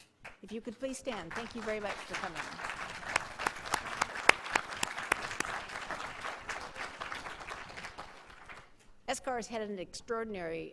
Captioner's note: applause